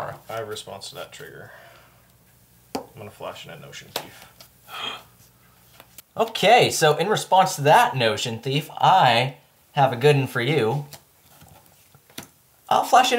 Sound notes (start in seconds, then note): 4.7 gasp